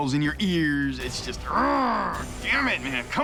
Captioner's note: growls